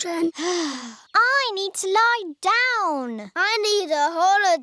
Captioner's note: sighs